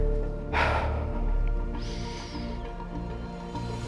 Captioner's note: deep breath